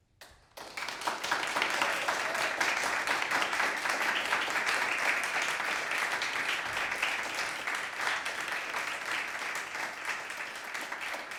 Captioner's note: applause